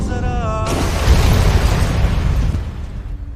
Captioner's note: crashing